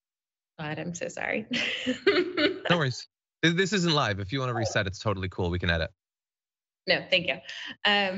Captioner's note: laugh